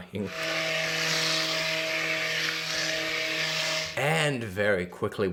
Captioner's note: mixer buzzing